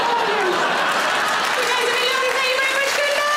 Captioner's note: audience laughing